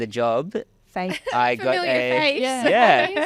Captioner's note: laughing